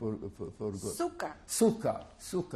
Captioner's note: non-english